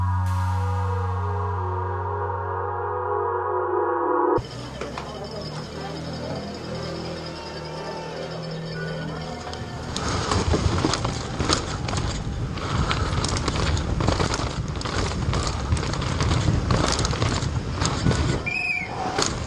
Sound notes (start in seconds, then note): 5.1 chains rattling; 9.9 gravel crunching; 18.4 whistle blows